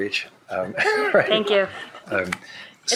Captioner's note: shared laughing